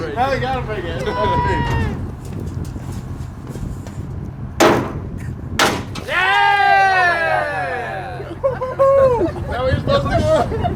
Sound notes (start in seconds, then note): 5.6 bottle bangs; 6.0 group cheers and laughs